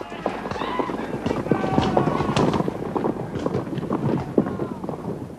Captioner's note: soldiers shouting